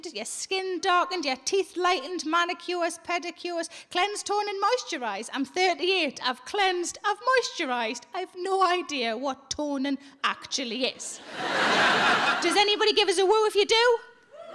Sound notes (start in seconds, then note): 11.1 audience laughing